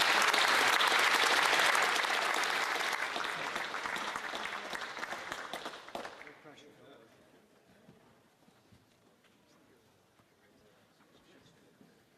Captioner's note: applause